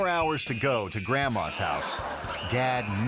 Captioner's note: audience laughing; screaming